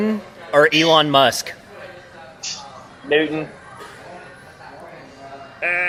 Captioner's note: both make buzzer sound to end the round